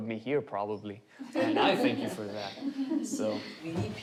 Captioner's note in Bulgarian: Учениците се смеят